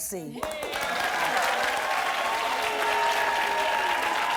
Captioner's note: cheering